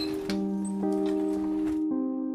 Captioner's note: soft music; grill shutting